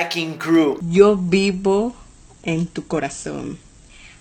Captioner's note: speaking in Spanish